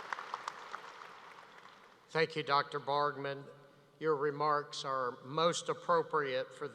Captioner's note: applause